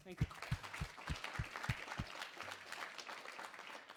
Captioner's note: applause